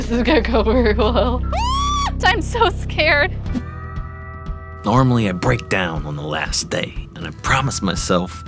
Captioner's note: screams